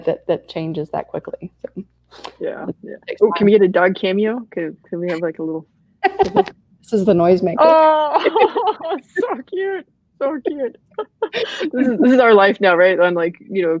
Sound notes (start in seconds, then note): 6.0 laughs; 7.6 laughing